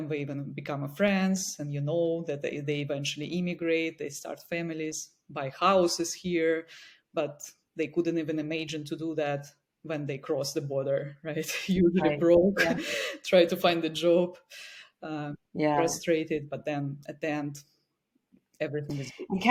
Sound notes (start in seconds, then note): 11.6 laughs